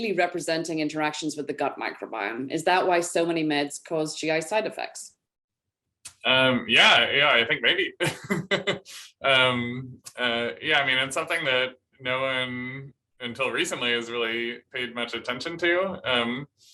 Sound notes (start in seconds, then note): 7.9 laughter